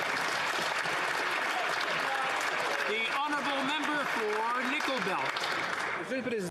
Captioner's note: some Applause